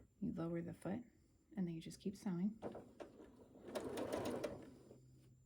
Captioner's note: sewing